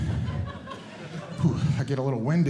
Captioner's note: audience Laughing